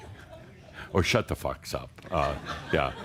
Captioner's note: more chuckles